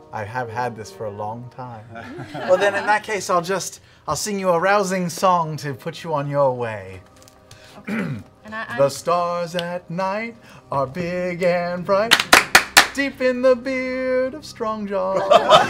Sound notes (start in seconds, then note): 7.8 clears throat; 12.1 clapping; 15.2 laughing